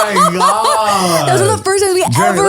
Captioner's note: laughs